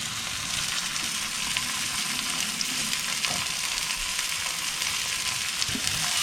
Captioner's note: more sizzling